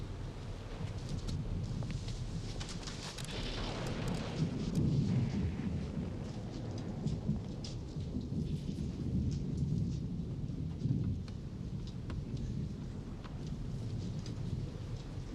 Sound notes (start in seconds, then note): 3.8 storm rumbling distantly